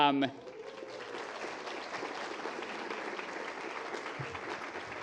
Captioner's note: applause